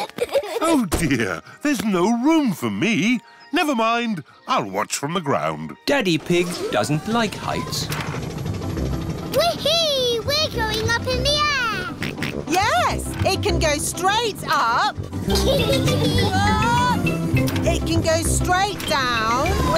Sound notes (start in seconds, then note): 0.0 peppa and george giggling; 12.2 snorts; 15.2 kids giggling